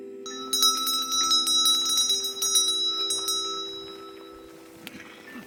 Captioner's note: bell chiming